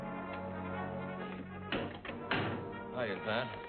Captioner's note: door clicking shut